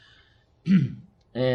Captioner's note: cough